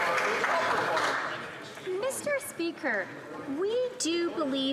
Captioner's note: some Applause